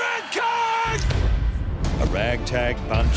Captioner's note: guns shots